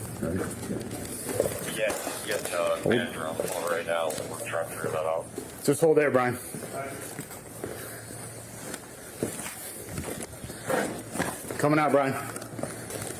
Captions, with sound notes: Got it? Okay (Radio chatter) Just hold there, Brian All right Coming out, Brian